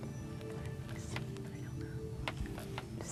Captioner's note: whispering